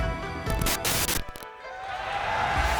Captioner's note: static buzzes; audience cheering